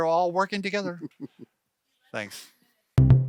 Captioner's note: chuckling